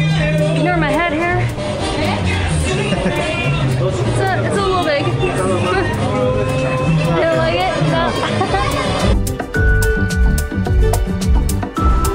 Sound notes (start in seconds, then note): 2.0 laughs; 9.2 upbeat music